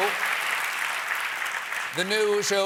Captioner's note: applause